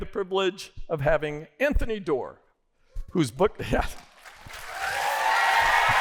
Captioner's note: applause